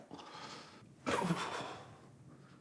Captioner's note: groans